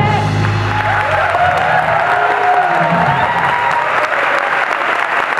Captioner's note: applause